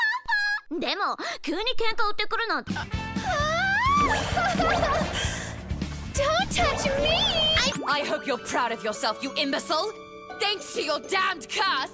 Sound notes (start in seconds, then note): 0.1 screeching obnoxiously in Japanese; 2.9 squeals